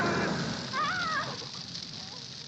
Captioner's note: flame flickering; flame roaring; flame flickering